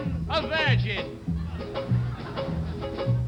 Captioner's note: audience laughs